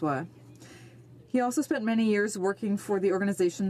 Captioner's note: speaking French